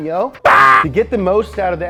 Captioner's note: yelling